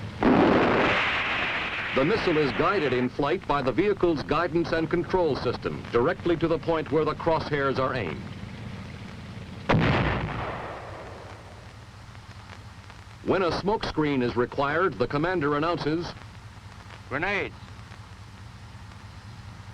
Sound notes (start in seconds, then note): 0.2 missile firing; 9.7 missile exploding